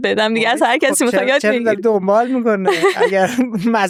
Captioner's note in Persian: خنده